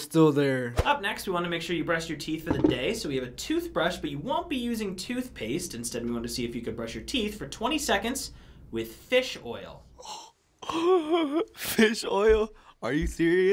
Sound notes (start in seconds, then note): 9.8 gasping